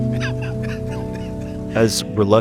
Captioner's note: quiet laughter